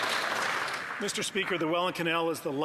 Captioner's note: some Applause